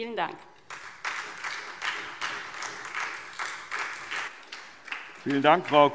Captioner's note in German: Beifall SPD